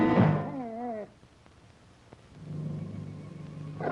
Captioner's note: dog whimpering